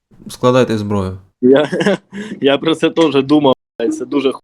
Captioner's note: laughs